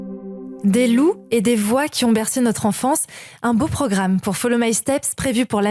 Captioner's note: french